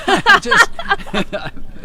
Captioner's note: laughs